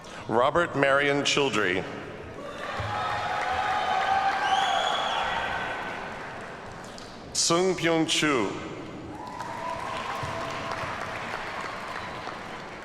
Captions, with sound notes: Robert Marion Childree. (audience cheers and applauds) Sung Pyung Chu. (audience applauds)